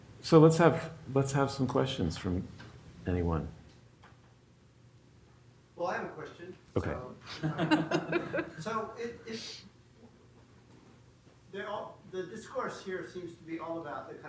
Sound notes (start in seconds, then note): 7.3 laughs